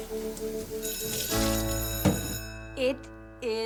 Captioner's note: school bell rings